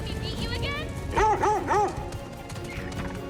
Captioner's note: barks